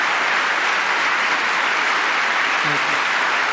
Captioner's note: applause